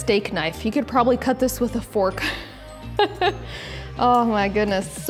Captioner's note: laughing